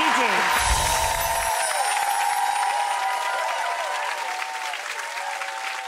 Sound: audience cheering; chimes tinkling

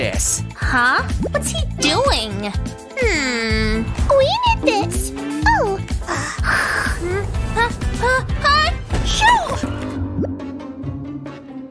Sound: grumbles

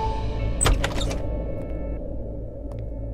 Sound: door opens

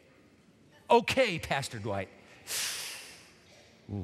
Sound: inhales sharply

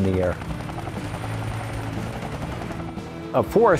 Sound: guns firing

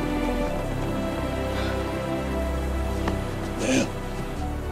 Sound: breathing heavily

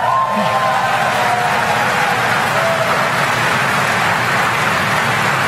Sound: applause

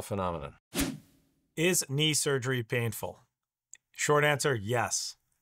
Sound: air whooshes

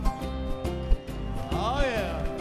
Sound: crowd cheers

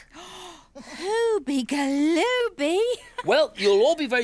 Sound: gasps

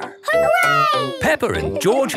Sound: laughing

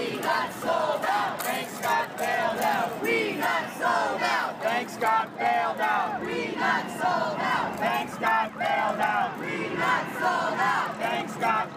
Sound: musical instruments. Protesters chanting 'We got sold out, banks got bailed out'

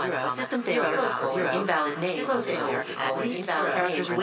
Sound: recorded Voice

